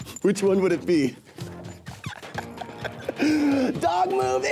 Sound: laughing

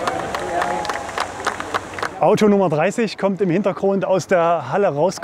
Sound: applause

